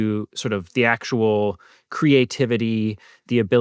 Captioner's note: none